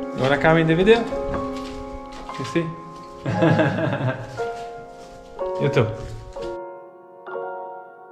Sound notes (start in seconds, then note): 3.2 laughs; 6.4 calm piano music continues